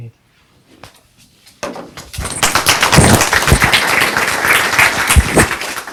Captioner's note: audience applauds